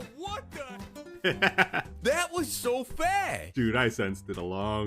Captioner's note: laughing